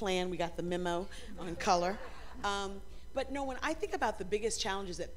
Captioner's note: laughter